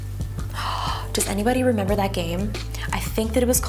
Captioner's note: soft electronic music; gasps